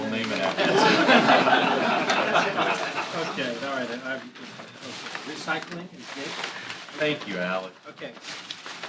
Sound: laughter

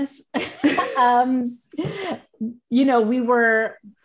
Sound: laughing

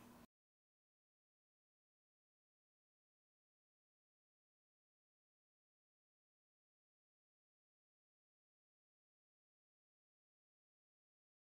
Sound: silence

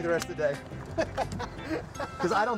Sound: laughs

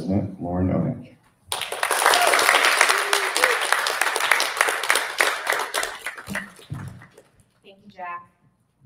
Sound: applause

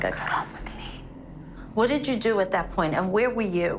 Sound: whispering

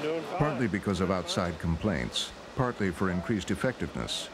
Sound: voiceover

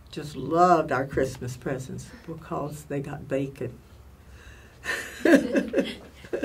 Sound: laughs

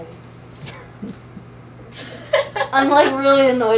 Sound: all laughing

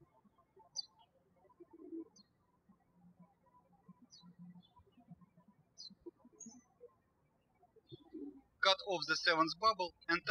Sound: birds chirping

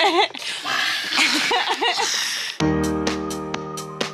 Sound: laughing; bright music

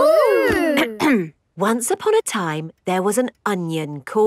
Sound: clears throat

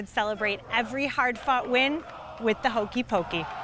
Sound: crowd cheering

